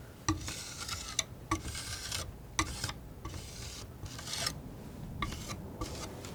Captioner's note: tapping